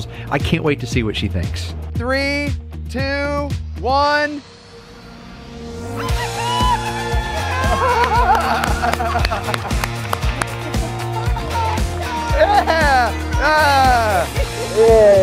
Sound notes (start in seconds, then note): 7.5 group cheering